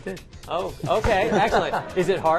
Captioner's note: laughter